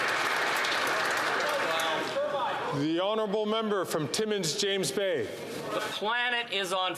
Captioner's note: applause